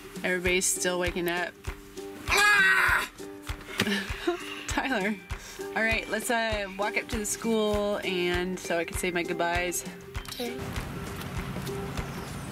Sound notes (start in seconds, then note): 2.3 screaming; 3.7 laughs